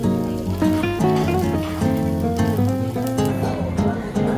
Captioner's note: slurp